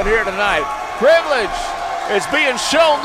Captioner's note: crowd cheering